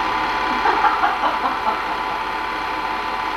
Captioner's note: laughing